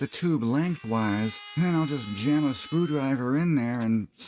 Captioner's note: Dremel sounds